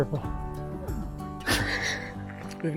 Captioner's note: laughs